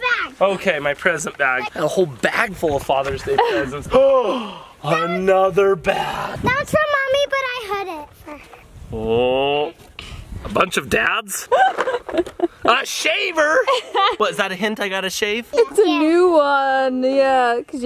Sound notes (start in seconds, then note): 4.0 gasps; 11.4 laughs